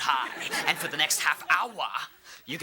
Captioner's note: audience laughing